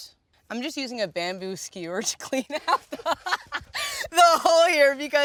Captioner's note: laughs